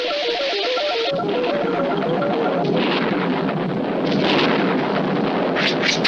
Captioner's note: thunder Strikes